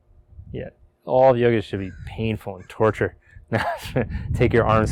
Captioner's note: laughing